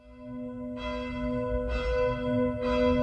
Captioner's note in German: Kirchengeläut